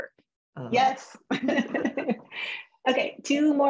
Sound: laughter

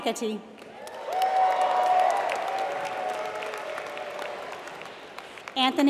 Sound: applause

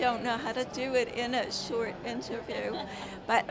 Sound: laughs

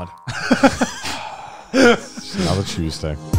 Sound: chuckling

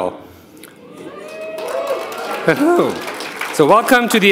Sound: audience applauding

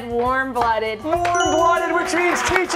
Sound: cheers and applause

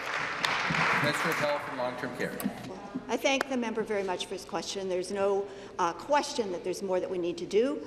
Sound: applause

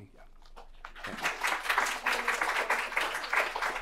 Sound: applause

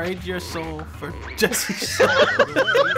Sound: laughs; laughter

